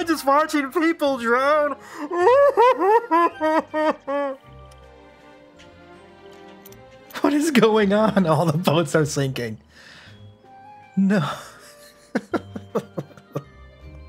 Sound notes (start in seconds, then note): 2.0 crying